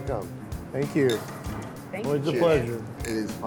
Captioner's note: glasses clinking